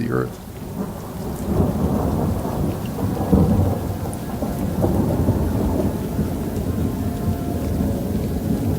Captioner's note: rain and thunder